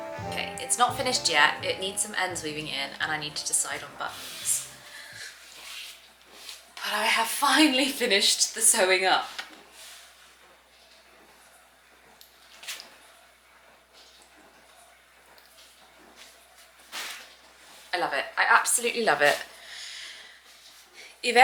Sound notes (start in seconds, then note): 14.3 silent scream